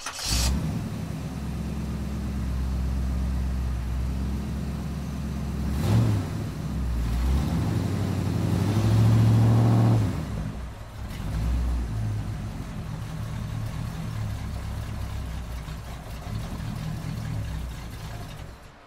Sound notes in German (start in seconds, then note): 0.7 Motor startet und läuft